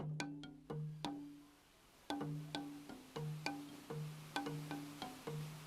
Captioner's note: water flowing